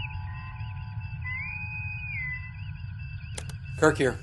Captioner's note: bosun whistle